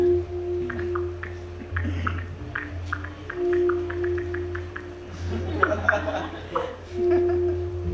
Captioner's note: phone keys typing